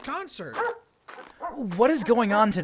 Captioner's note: katie barks